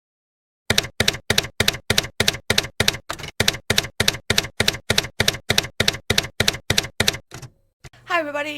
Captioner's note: typewriter keys clacking